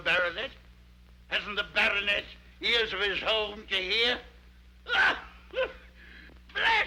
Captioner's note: laughs